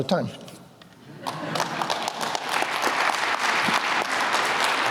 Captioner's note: applause